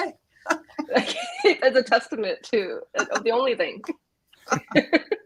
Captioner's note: laughs